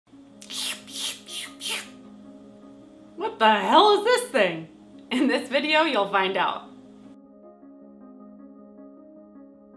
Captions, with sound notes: (upbeat music) (imitates swooshing sound) - What the hell is this thing? In this video, you'll find out. (upbeat music)